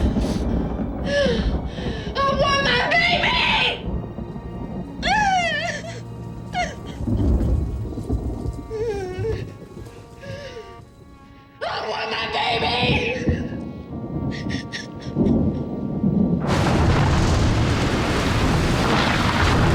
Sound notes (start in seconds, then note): 0.9 gasps; 4.7 sobbing, thunder; 14.4 crying; 16.6 thunder